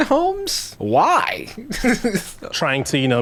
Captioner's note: laughing